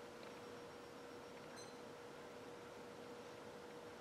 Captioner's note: timer beep